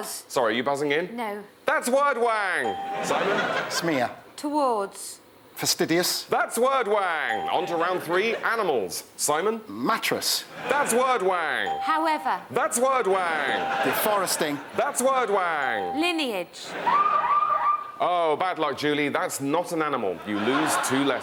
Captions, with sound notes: - You buzzing in? - No. That's Wordwang. Simon? - Smear. - Towards. - Fastidious. - That's Wordwang. On to round three, animaIs. Simon? - Mattress. - That's Wordwang. - However. - That's Wordwang. - Deforesting. - That's Wordwang. - Lineage. - (HOOTER) Oh, bad Iuck, JuIie, that's not an animaI. You Iose two Ietters.